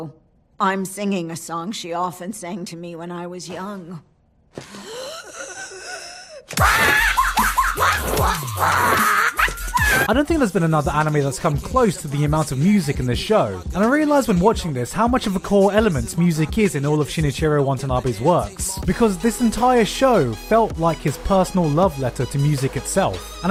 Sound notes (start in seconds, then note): 4.6 EXTREMLY deep breath